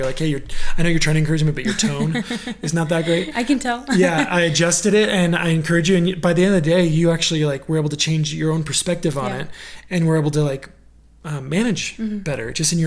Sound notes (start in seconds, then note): 3.5 laughing